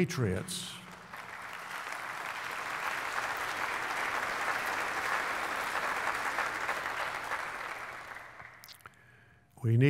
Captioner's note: applause